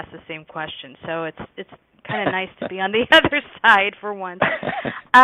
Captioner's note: laughs